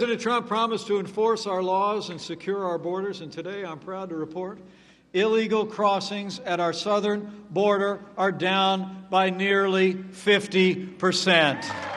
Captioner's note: applause